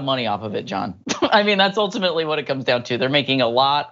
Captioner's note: laugh